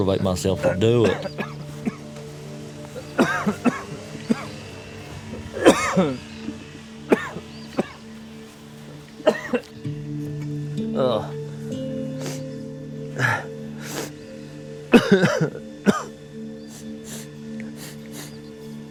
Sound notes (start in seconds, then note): 1.8 coughing; 10.9 grunts; 12.1 sniffles, catches breath; 14.6 coughs